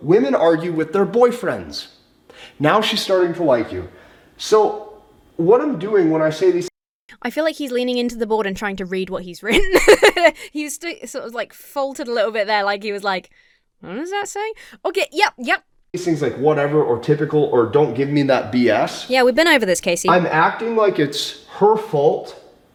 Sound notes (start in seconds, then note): 9.5 laughs